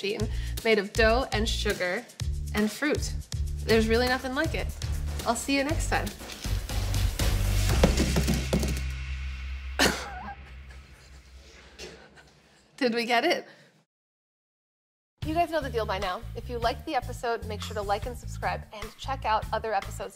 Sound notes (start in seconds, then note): 7.4 doughnuts clunk as they fall; 9.8 laughs